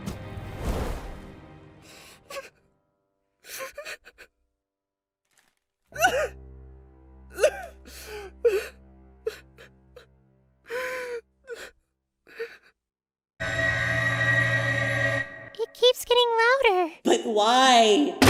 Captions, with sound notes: [CRYING] [SOBBING] [WAILING] It keeps getting louder... But why??